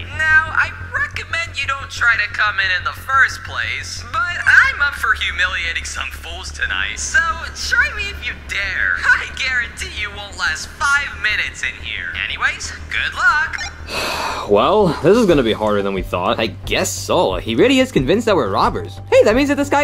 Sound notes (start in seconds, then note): 13.4 device beeps; 13.6 sighs